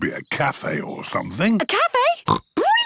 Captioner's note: snorts